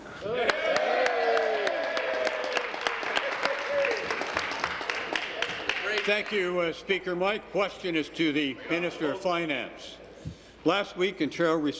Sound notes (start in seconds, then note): 0.0 applause; 3.8 applause